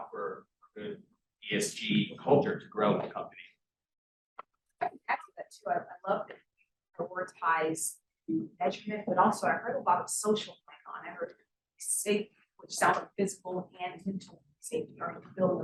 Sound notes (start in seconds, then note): 4.8 sound distorted; 14.8 sound distorted